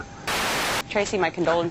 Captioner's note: static